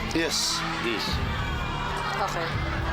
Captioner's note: crowd cheering bets